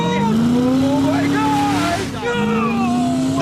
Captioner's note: engine revving; Caleb laughing